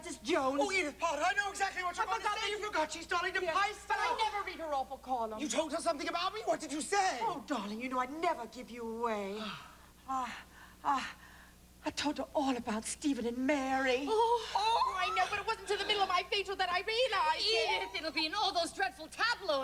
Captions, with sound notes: Oh, I know exactly what you're going to say! You forgot she's "Dolly de Peyster." But I never read her awful column. Something about me? What did you say? Oh, darling, you know I'd never give you away. ( sighs ) Uh, uh, uh... I told her all about Stephen and Mary. Oh! I know-- I realized only in the middle of my facial! It'll be in all those dreadful tabloids!